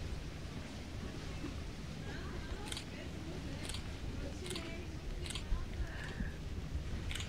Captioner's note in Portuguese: Disparos de câmera